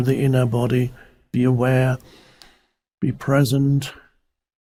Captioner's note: inhales